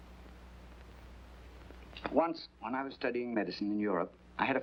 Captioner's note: none